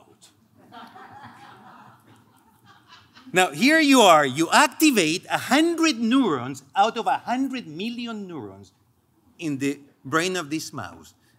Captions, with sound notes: (laughing) Now, here you are, you activate a hundred neurons out of a hundred million neurons in the brain of this mouse.